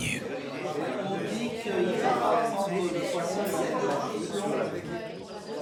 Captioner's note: guests quietly chattering